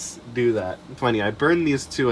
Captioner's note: none